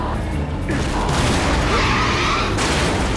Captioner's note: tires screech; explosion booms; metal crunches